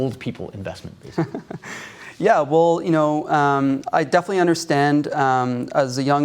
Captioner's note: laughs